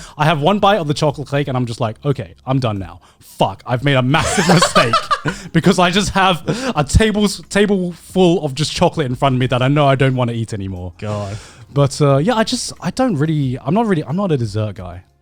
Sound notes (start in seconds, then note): 4.2 laughs